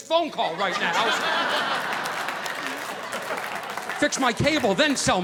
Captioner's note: audience laughing